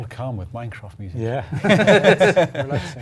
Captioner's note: laugh